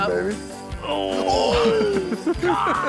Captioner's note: both grunting